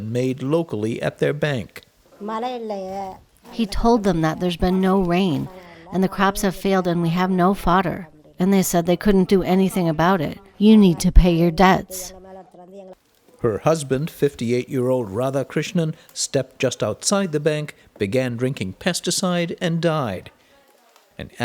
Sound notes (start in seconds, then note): 3.1 through translator